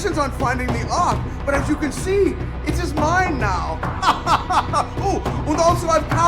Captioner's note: laughs